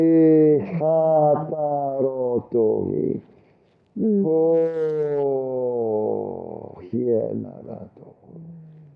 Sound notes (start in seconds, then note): 1.3 speaking foreign language